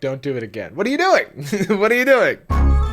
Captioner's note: laughs